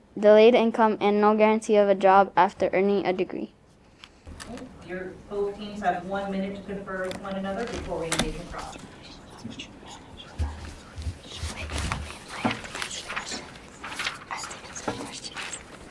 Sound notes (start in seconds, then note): 9.0 students whisper; 10.2 papers rustle